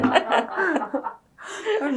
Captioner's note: laughter